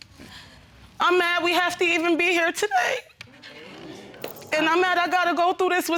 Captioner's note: voice breaking